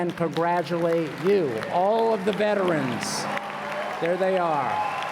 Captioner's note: applause